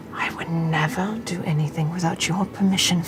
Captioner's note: none